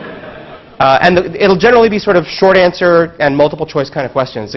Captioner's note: laugh